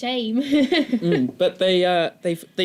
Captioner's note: chuckles